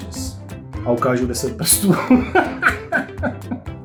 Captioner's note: Czech language 😊